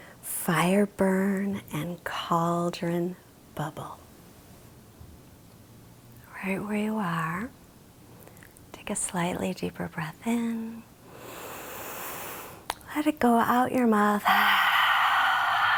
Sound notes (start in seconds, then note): 11.0 inhales deeply; 14.3 exhales deeply